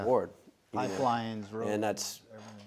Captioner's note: murmurs